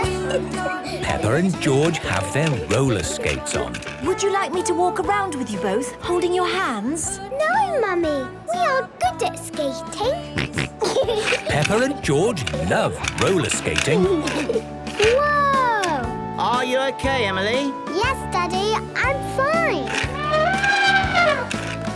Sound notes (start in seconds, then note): 0.0 giggling; 10.3 snorting and giggling; 14.0 laughter; 19.3 trumpeting